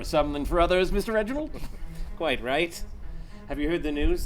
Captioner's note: laughing